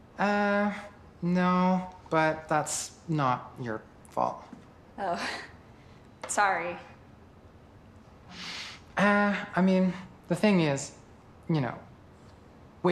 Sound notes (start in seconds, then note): none